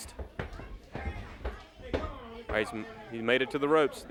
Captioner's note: crowd chatter